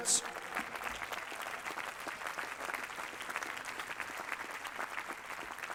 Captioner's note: applause